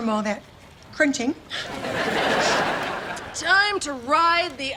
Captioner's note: laughs